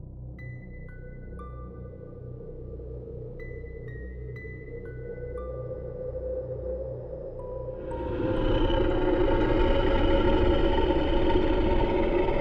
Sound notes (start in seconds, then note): 1.1 gentle music; 7.8 growling